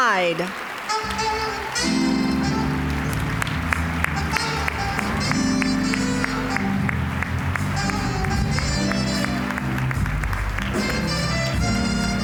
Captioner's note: applause; smooth jazz music